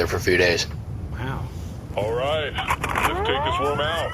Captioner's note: charging blaster